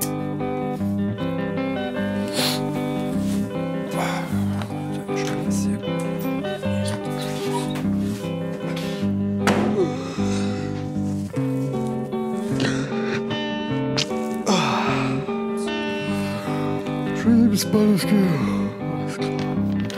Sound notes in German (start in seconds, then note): 14.3 Er gähnt